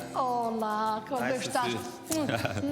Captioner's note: speaks in foreign language